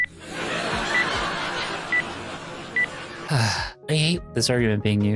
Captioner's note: audience laughter